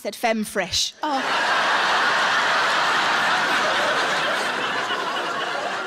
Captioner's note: audience laughing